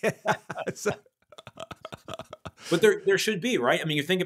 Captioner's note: laughing